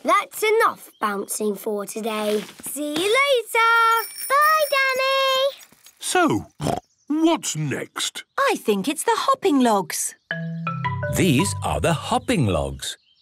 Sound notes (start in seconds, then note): 6.6 snorts